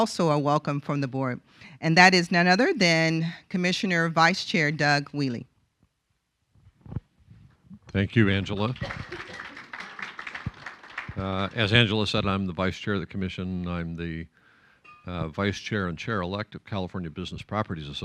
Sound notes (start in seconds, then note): 8.2 applause